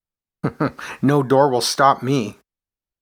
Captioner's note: chuckles